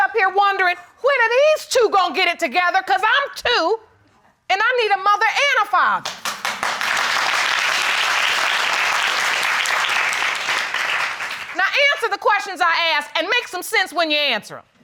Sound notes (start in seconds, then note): 6.0 applause